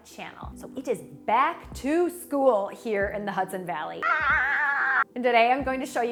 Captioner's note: screams